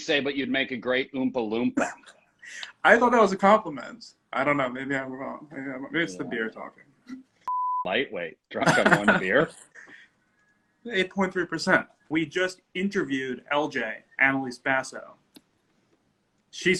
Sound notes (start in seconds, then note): 7.4 beep